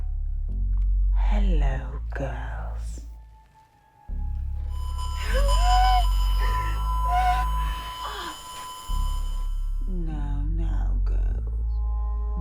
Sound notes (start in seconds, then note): 4.6 speaker static whistling